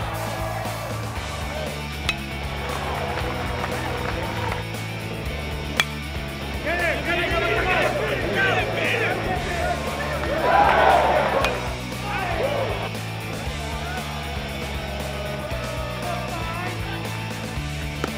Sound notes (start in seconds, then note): 1.9 baseball bat clinking; 3.1 upbeat music; 5.6 baseball bat clinking; 9.9 crowd cheering; 10.8 upbeat music